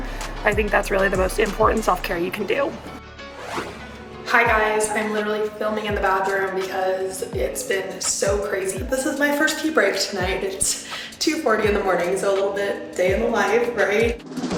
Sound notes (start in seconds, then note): 4.0 echoing